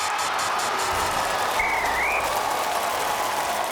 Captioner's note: whistle blows; cheers and applause